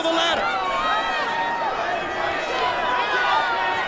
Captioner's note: fans screaming